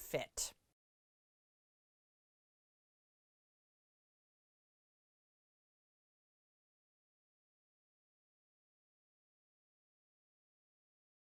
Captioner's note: no Sound Present